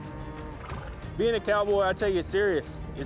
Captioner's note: cattle mooing